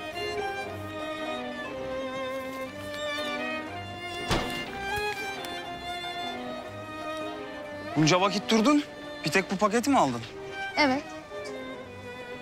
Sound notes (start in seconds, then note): 4.0 the door closing sound